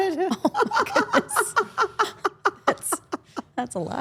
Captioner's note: Steph and Elyse laughing